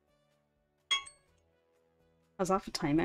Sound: alarm dings

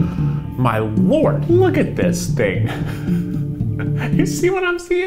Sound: laughs

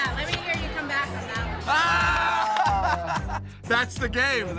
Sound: laughter

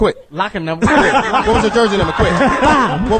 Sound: all laugh

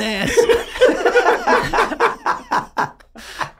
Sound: all laughing

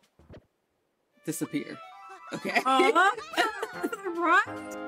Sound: both laughs

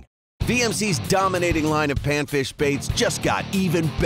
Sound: voiceover

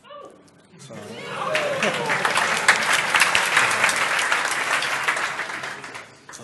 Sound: applause

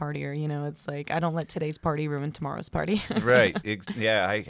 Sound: laughs

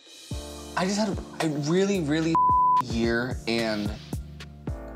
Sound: beep

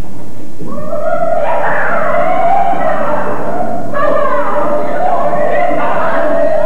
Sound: whooping, cheering

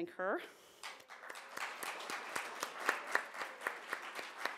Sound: applause

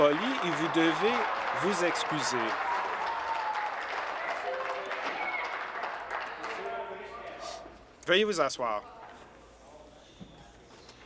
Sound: applause

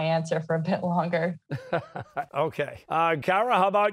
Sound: chuckles

